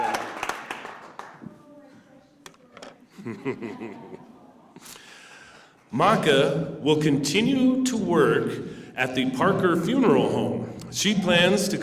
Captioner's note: applause